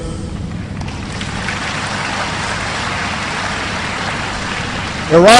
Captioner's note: applause